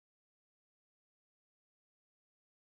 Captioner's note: none